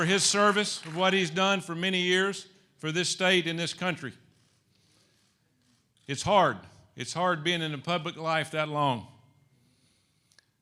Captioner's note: applause